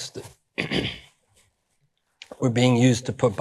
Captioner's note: clears throat